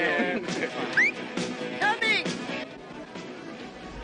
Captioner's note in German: Pfeifen